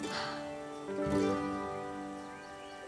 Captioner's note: sighs